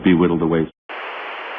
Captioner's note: static